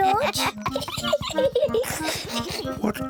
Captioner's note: both laugh